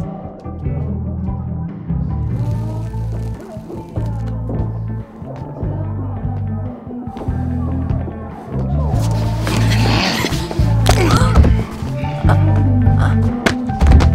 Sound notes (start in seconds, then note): 9.4 growls; 11.4 moans